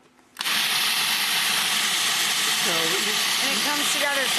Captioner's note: blender whirring